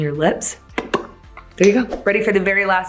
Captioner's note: lips popping